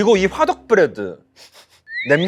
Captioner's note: sniff sniff